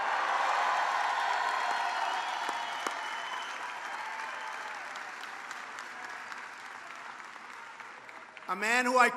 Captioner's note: applause